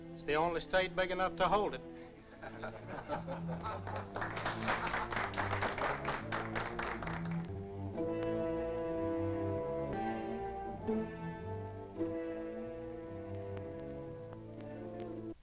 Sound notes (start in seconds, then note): 2.3 laughter; 3.7 applause; 3.9 ominous music